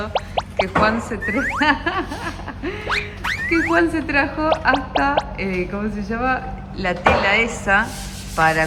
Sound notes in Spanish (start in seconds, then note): 1.3 risas